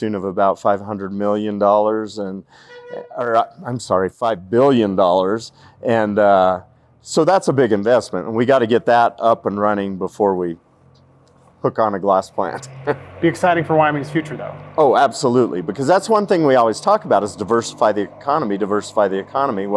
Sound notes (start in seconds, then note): 12.3 laughs